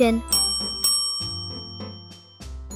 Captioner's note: bell Rings